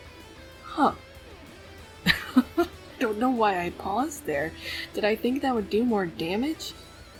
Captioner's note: laughs